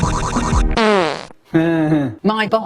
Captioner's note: fart noise